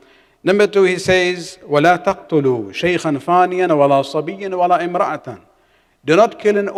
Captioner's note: arabic